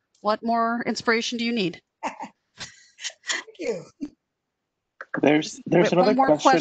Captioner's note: laughter